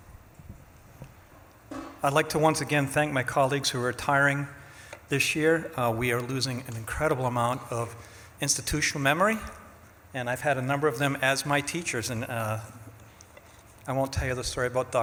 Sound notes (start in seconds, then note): none